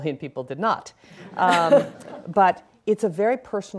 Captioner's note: laughing